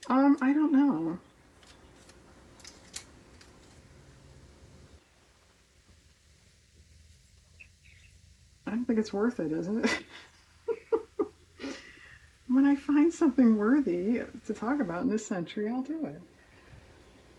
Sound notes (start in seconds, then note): 9.6 laughs